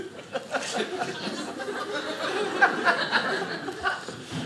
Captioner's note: audience laughing